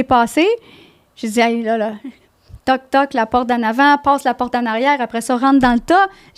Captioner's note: in french